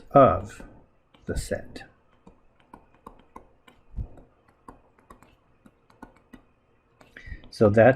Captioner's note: writing Sounds